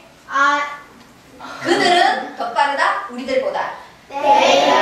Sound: speaking foreign language

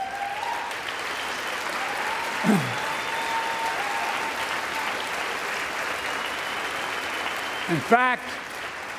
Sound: applause

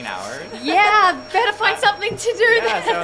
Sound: all laugh

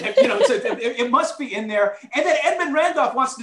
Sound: laughter

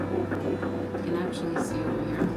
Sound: beating heart

